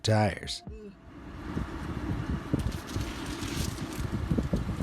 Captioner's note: wind blowing